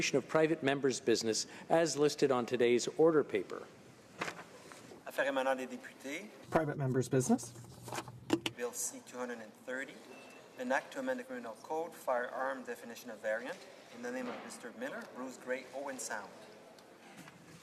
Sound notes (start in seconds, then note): 9.8 speaking French